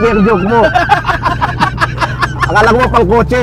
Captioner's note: laughs hard